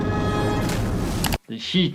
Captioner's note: water splashing